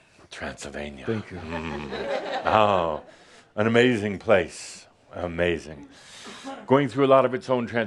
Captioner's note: some chuckles